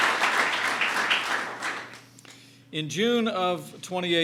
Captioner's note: applause